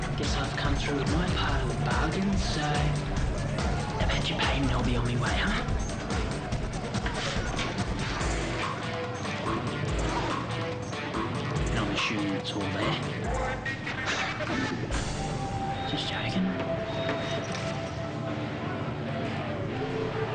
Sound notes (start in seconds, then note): 7.4 upbeat rock music; 15.1 chuckles